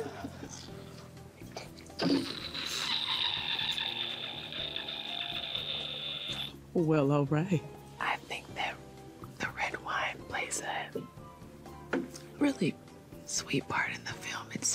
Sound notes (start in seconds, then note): 4.5 Trevante squealing